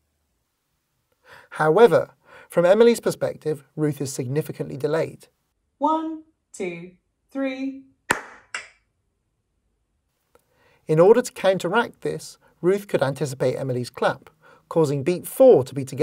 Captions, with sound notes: However, from Emily’s perspective, Ruth is significantly delayed. 1, 2, 3, (clap...clap) In order to counteract this, Ruth could anticipate Emily’s clap, causing beat four to be together from Emily’s perspective;